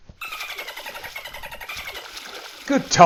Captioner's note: excited squeaks; water splashing